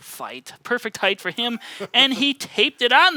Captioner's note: laughing